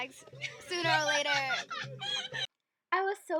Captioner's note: hysterical laughter